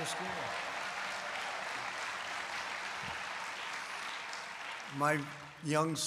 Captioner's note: applause